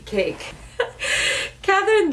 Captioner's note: laughing